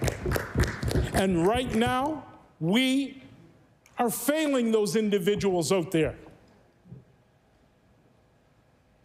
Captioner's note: applause